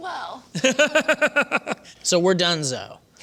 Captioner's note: laughter